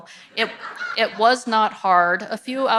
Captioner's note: audience laughs